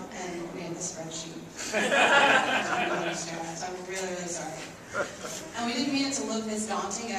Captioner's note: laughs